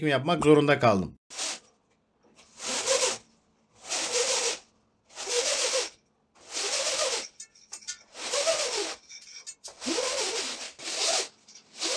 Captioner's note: roller Blind Opening Sound; roller Blind Closing Sound